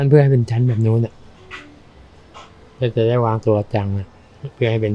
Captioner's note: speaking foreign language